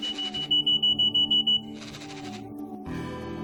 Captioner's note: phone alarm ringing and vibrating loudly